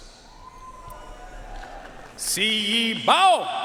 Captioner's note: audience cheering and applauding